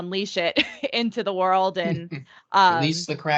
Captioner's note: laughing